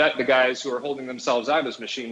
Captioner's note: murmurs